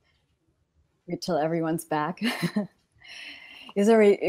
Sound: laughs

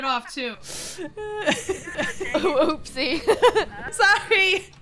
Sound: laugh

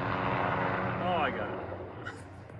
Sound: chuckle

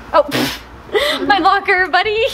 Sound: laughs

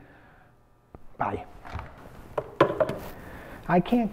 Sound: receiver clangs

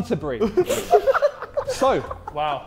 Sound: Sidemen laughing

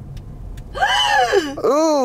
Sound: gasps

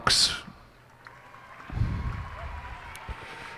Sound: cheers and applause

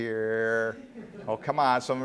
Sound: laughter

